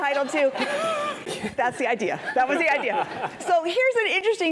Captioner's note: laugh